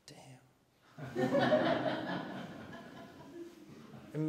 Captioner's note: laughter